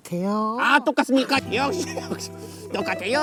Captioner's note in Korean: ㅎㅎㅎㅎㅎㅎㅎ